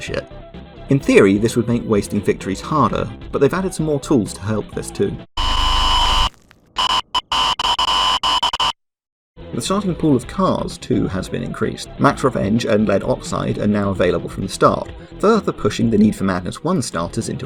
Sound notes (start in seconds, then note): 5.4 more satanic static